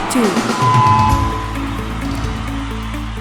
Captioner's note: microphone screeching; crowd cheering